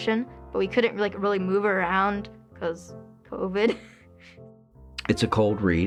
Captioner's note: laughs